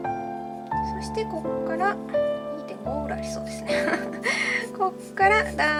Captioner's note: laughs